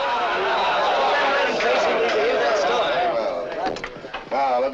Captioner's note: shouts of encouragement